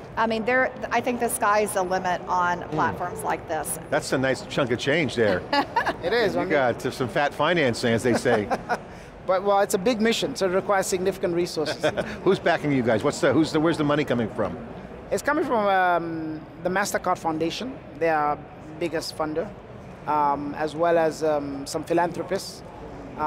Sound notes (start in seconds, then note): 5.3 laughs; 8.0 laughs; 12.3 laughs